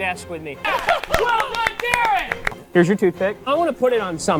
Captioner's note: group clapping and chattering